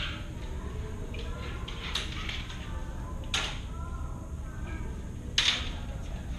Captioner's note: general conversation